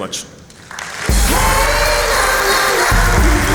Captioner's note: applause